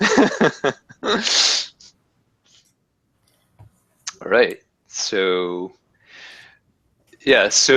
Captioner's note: laugh